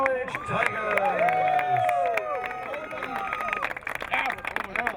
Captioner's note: crowd cheering